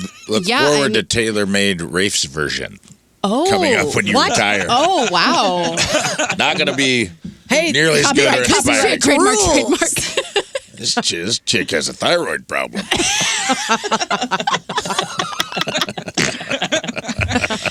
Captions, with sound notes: Let's go forward to Taylor made Rafe's version. Oh, what? Coming up when you retire. Oh, wow. Not gonna be nearly as good or as bad. Hey, cup of tea, trademarked. This chick has a thyroid problem. (laughing)